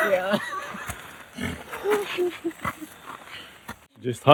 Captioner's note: laughter